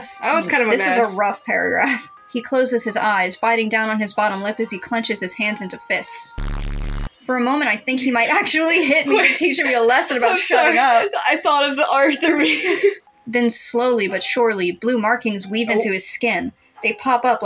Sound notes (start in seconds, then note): 8.6 laugh; 8.6 laughing; 12.2 both Laugh